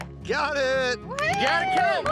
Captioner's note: rope clinks; everyone cheering